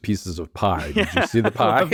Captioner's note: laughs